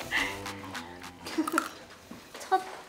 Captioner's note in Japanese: パクッ